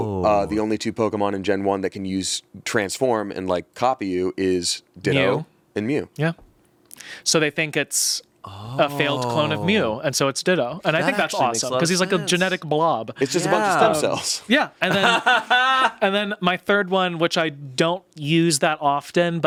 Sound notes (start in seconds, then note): 14.8 laughs